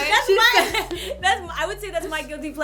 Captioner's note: laughter